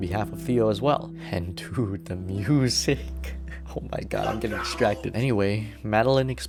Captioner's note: chuckle